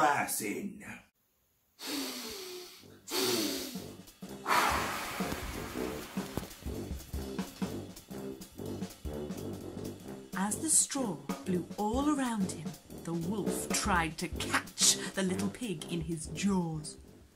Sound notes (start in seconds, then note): 1.8 breath in